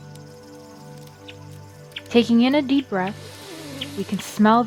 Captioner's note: breathing sounds